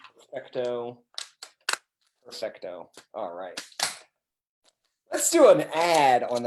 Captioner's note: speaks in a foreign language